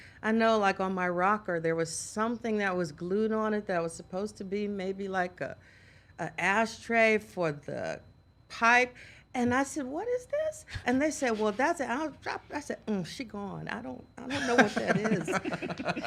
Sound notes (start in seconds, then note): 12.1 stutters; 15.8 all laughing